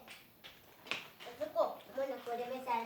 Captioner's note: speaking Huichol